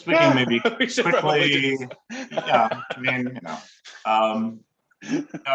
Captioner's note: laughing